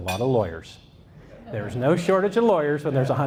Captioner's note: audience laughs